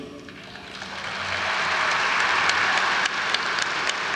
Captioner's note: audience applauds